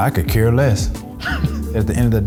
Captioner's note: laughing